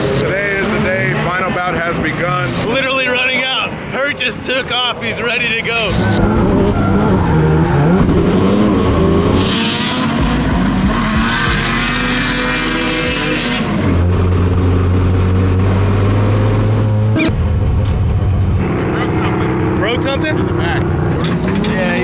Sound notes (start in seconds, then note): 6.3 engine revs; 11.9 tires squealing; 12.8 engines rev; 15.3 engine revs; 17.1 distorted beep